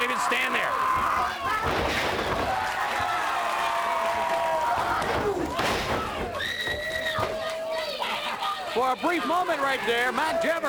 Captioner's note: crowd cheering